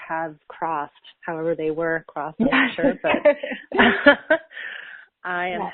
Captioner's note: laughs